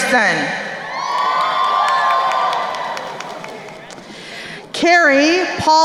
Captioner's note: crowd cheering and applauding